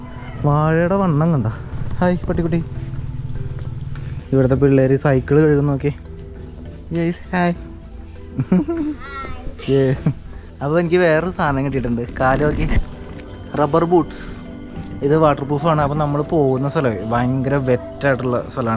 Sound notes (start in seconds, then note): 8.3 hi exchanges and laughter